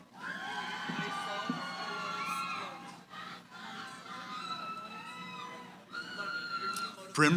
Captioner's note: cheering